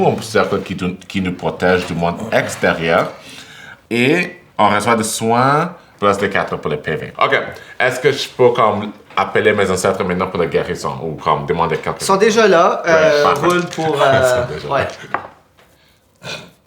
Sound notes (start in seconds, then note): 12.8 laughs; 13.0 die rolling